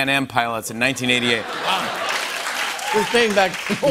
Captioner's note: cheers and applause